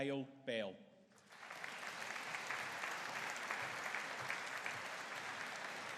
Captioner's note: audience applauding